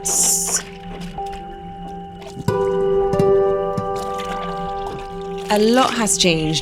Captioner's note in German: Wasserplätschern; sanfte Instrumentalmusik